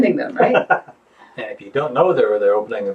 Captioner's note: laughs